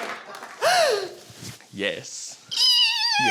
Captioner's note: gasps; squeals, laughs